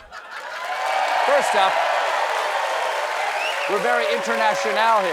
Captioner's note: cheers and applause